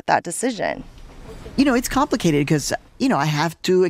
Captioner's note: soundbite of archived recording